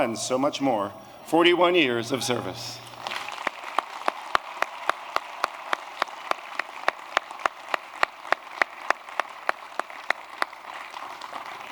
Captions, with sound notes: and so much more, 41 years of service. [APPLAUSE]